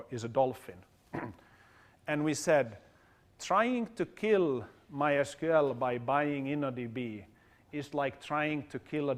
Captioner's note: cough